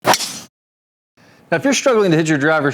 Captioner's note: slicing sound effect